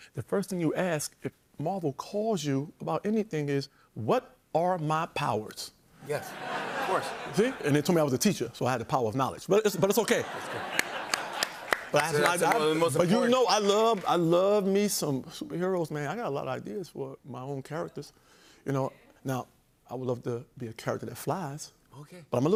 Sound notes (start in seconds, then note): 6.1 laughter; 9.9 laughter and applause